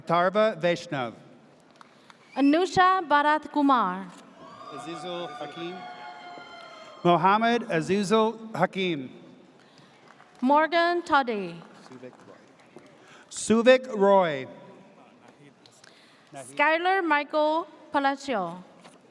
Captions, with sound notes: - Atarva Veshnuv. - Anusha Barat Kumar. (audience cheers) - Mohamed Azizil Hakeem. - Morgan Todde. - Suvik Roy. - Skyler Michael Palacio.